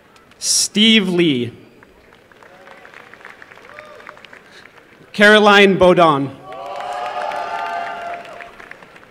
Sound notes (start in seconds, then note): 1.7 applause; 6.3 applause and cheering